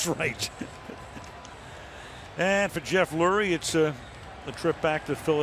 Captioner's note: chuckles